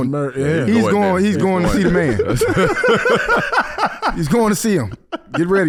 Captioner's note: laughing